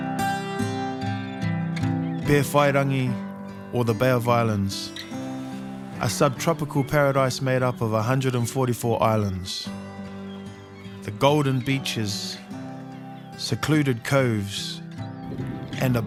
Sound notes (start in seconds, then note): none